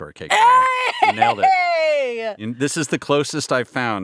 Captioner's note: cheers